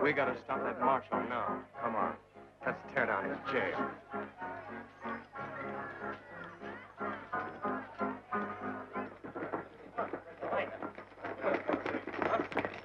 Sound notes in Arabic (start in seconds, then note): 9.5 ثرثرة رعاة البقر